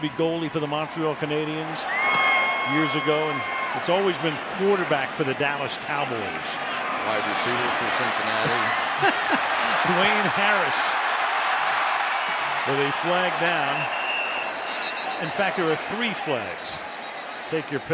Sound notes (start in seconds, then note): 8.4 laughter; 13.7 whistle blows